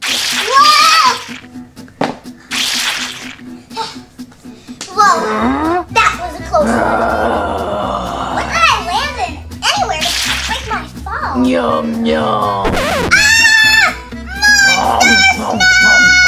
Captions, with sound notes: (splats) Whoa, that was a close one. - (growls angrily) - What did I land in, anyway? It broke my fall. - Yum yum. (record scratches) - Aaaaah! Monster snack!